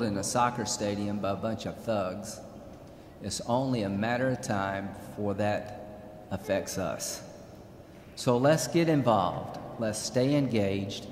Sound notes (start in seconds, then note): none